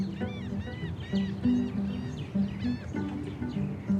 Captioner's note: gulls crying